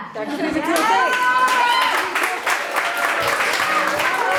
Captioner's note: audience applauds